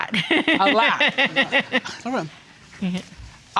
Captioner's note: laughing